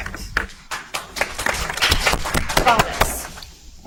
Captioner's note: audience applauds